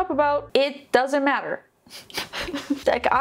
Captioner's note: laughs